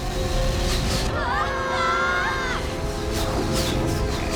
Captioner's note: screaming